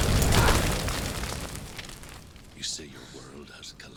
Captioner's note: sound of flames, commotion fades